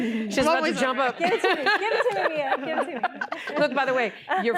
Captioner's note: laughter